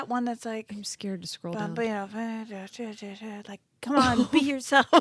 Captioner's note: humming